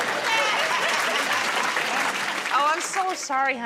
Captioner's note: applause